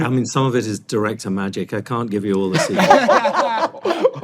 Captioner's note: all laugh